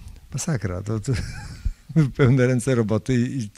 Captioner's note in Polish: śmiech